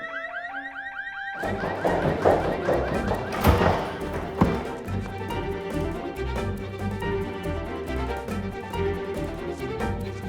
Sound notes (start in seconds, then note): 1.2 security alarm blaring; 3.5 tense music continues